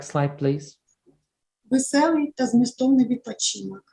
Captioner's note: foreign Language